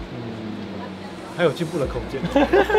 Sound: laughs

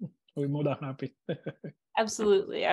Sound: chuckles; laughs

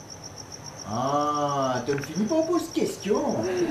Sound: in creole

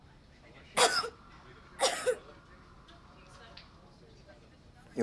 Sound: coughing

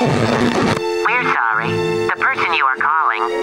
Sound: none

